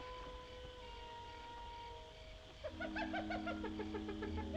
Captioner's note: hyena Laughing